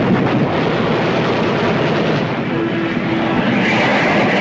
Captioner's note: water splashes; guns firing; plane whooshing